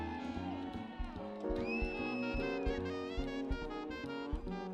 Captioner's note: people cheering